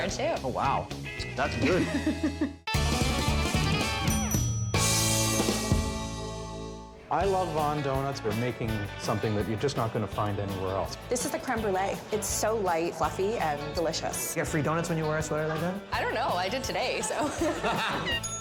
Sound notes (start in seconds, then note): 1.6 chuckling; 2.7 upbeat music